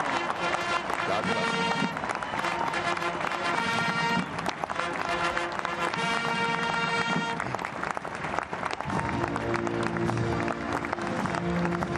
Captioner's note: applause